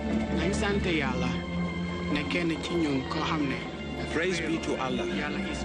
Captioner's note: foreign language